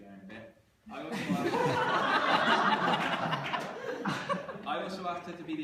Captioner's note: laughter